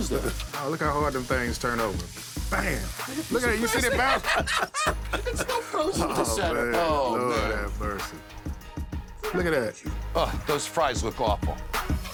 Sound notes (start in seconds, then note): 3.0 both laughing